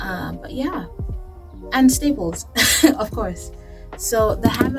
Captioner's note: laugh